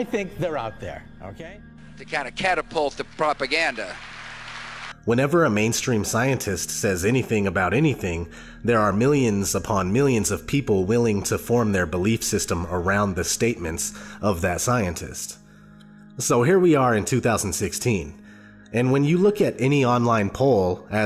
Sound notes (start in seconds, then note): 3.6 audience applause; 5.1 voiceover